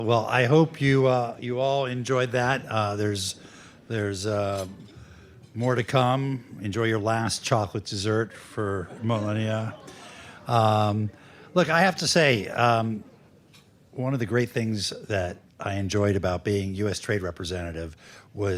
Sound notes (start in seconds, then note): 8.7 laughter